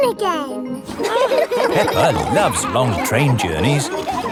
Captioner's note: laughing